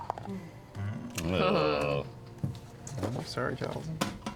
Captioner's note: groan